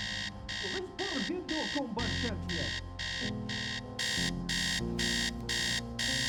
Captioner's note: man chattering in unknown foreign language